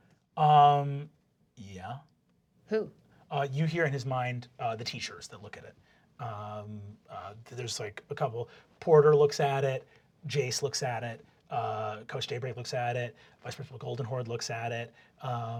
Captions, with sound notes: - (deep voice) Yeah. - Who? - You hear in his mind, the teachers that look at it. There's a couple. Porter looks at it. Jace looks at it. Coach Daybreak looks at it. Vice Principal Goldenhoard looks at it.